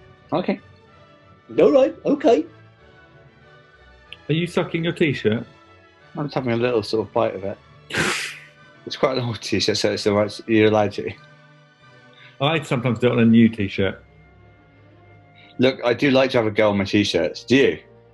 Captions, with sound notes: Okay. [DOPEY VOICE] Alright, okay. Are you sucking your t-shirt? I'm just having a little, sort of, bite of it. [SNIGGERS] It's quite an old t-shirt, so you're allowed to. I sometimes do it on a new t-shirt. Look, I do like to have a go on my t-shirts; do you?